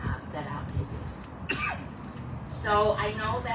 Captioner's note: bird calling in distance; man coughs